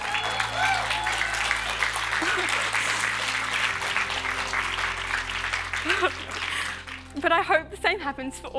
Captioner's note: cheers and applause